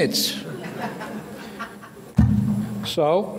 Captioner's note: audience laughing